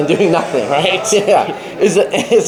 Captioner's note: laughs